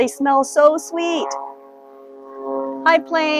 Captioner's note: plane engine roaring